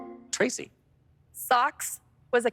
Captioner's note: electric chime